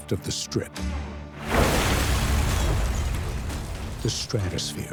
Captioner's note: metal crashing